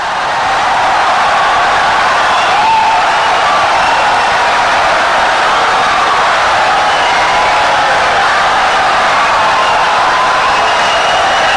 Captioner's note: wild applause and cheering for 17 seconds